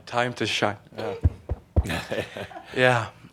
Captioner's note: Adamus chuckles